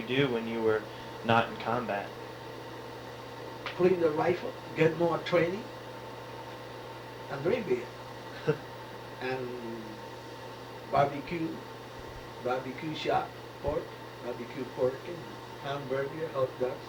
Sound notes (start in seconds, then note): 8.3 laughs